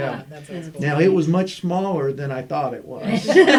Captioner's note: laughter